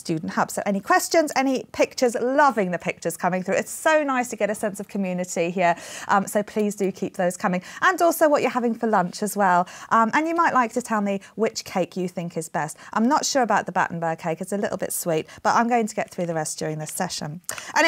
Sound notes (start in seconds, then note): none